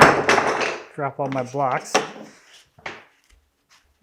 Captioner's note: wood clattering